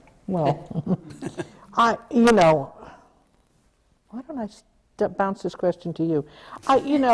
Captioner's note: laughter